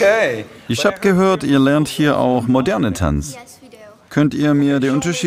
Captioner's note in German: englisch